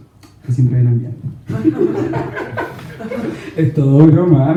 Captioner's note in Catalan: rialles